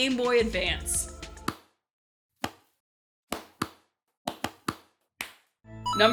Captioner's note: slow clap